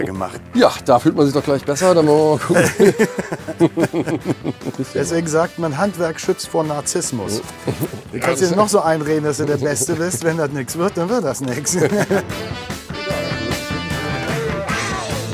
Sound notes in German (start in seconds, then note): 2.3 Gelächter; 11.5 Gelächter; 12.4 Dynamische Musik